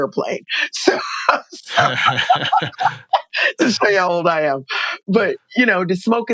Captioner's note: laughter